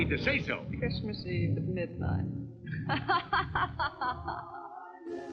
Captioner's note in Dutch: lachend